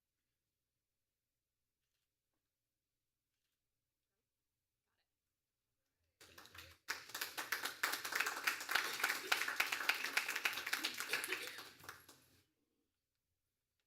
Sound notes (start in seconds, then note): 8.4 applause